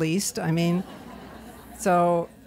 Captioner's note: laughter